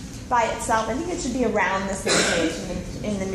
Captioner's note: person sneezes